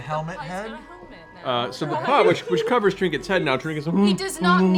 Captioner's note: bear moans